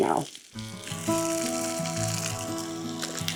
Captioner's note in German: Öl brutzelt; sanfte Instrumentalmusik